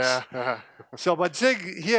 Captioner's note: laughs